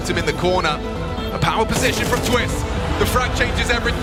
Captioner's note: gun firing